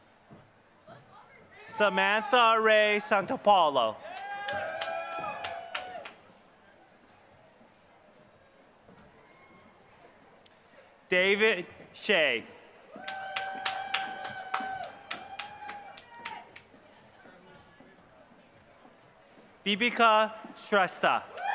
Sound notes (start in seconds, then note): 0.0 applause; 21.3 applause